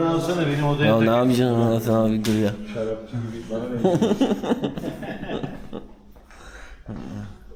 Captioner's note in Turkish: kahkaha